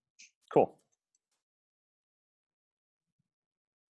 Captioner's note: long pause